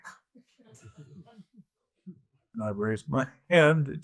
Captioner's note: audience chuckles